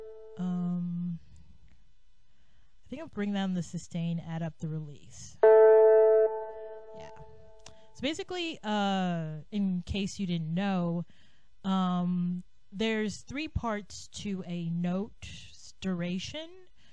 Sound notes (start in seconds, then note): 5.4 twang